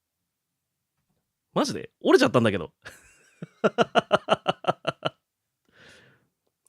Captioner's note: laughs